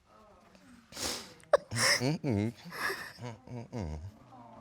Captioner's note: crying